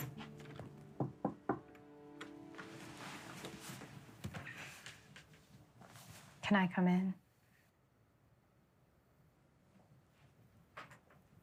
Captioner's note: knocks on door